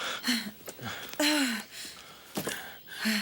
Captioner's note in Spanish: Jodie suspira